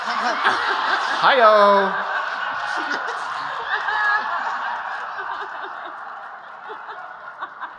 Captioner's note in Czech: smích